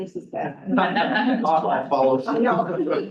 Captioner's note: all chuckling